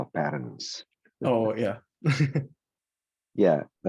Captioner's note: laughs